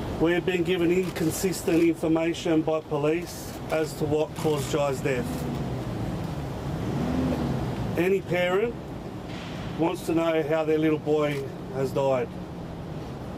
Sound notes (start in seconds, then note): 0.0 cameras clicking; 5.0 car engine revving